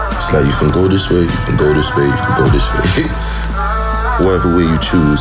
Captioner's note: laughs